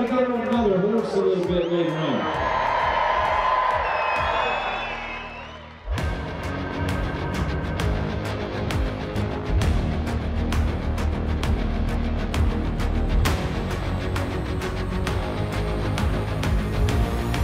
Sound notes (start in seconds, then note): 3.0 crowd cheers; 6.1 exciting music